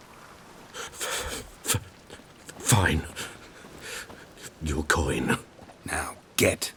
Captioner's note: quivering